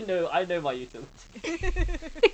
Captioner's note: laughing